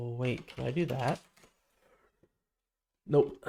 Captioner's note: silence